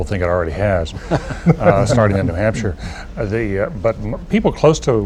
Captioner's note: laughter